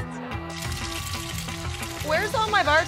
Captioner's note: food sizzling